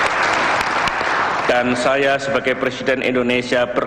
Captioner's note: non-english speech